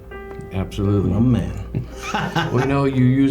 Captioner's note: chuckles